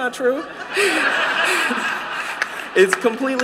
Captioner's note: laughter